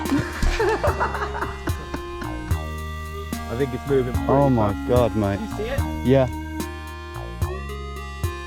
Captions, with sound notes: [Fits of laughter] I think it's moving Oh, my God mate - Did you see it? Yeah.